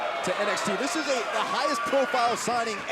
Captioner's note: crowd chatter